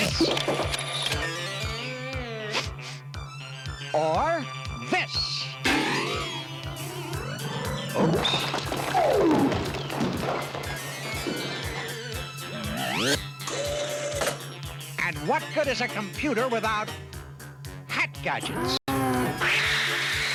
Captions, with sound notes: THIS? [SNIFFING] OR...THIS? OOPS! [THUD] AND WHAT GOOD IS A COMPUTER... WITHOUT HAT GADGETS?